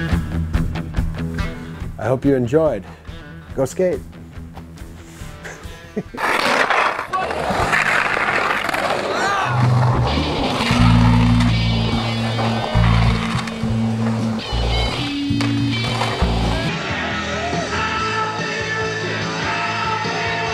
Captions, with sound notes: I hope you enjoyed. Go skate! (chuckling) (grinding) (heavy metal music)